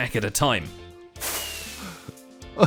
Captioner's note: laughing; many fireworks